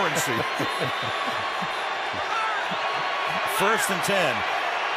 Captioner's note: laughter